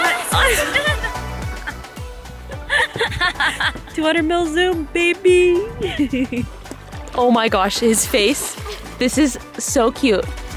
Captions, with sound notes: (laughing) - 200 mil zoom, baby (chuckles) Oh my gosh, his face! This is so cute.